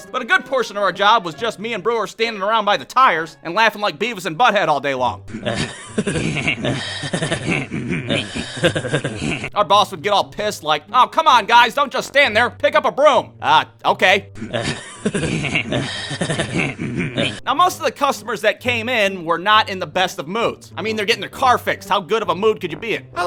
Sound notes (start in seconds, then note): 5.3 pretty much that stupid-ass laughing; 14.4 keeping on laughing